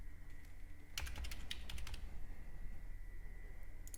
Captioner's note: typing